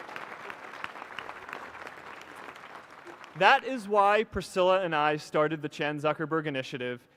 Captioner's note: applause